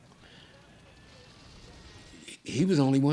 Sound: siren ringing

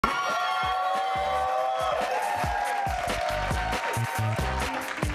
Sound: crowd cheering; upbeat music continues

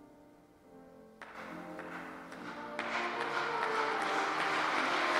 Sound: audience applauding

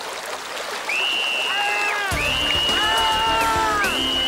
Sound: screaming

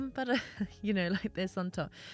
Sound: sings the classical song; chuckles

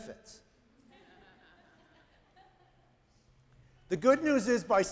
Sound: audience laughing lightly

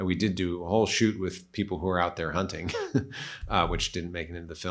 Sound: laughs

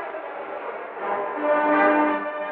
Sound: none

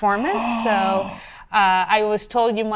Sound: gasps in disbelief

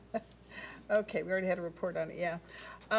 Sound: laughs

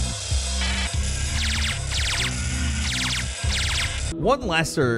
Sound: lasers blasting

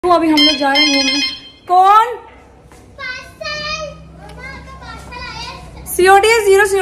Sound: door bell

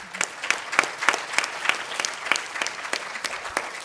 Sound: applause

